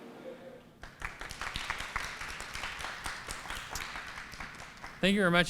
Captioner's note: applause